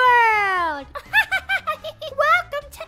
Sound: laughter

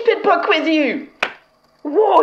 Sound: sound of wet book hitting large German man

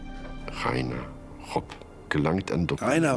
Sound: man speaking German

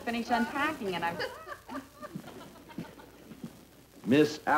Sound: footsteps

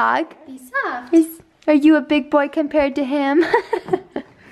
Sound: voiceover

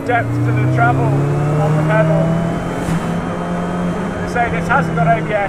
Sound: car roars

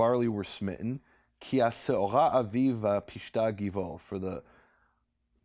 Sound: speaking in Hebrew

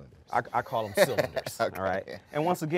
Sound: presenter laughing

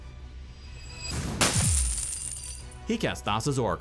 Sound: coins clatter

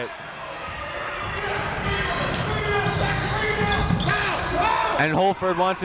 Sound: coaches yelling; crowd talking

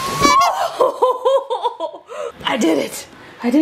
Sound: laughs

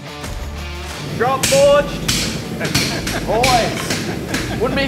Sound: laughing

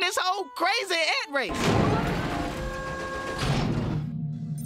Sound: elevator whirring; computers beeping

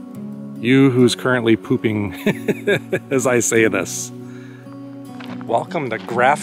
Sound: laughing

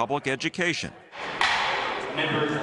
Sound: gavel banging

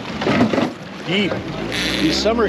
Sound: chuckling

